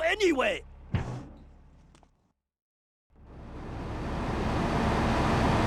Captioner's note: sirens wailing